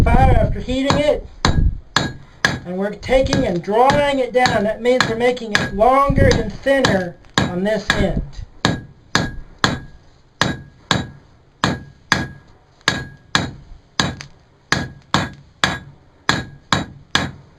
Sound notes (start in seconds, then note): 10.4 hammer Noises